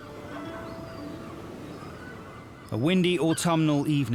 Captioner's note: seabirds squawking